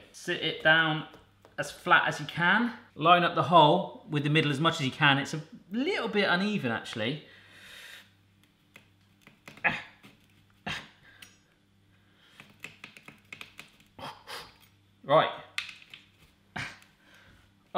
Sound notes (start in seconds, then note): 9.6 grunts; 14.0 huffs